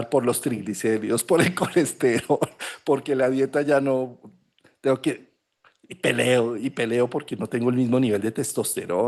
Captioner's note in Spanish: risas